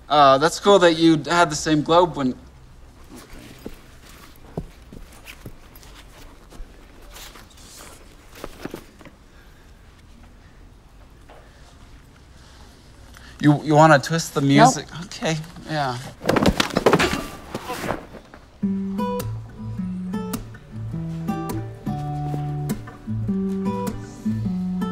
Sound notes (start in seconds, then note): 16.0 falls on floor; 18.6 casual music